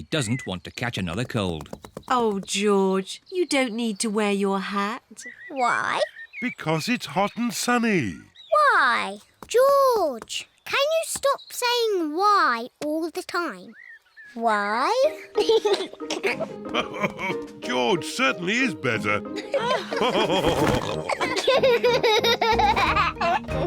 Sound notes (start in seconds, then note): 14.8 laughs; 15.0 giggles; 19.3 all laughing